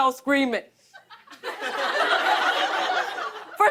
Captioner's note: laughter